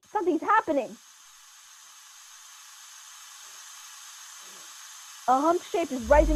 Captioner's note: hissing sound, followed by humming again